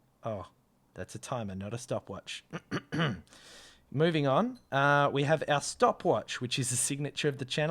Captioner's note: clears throat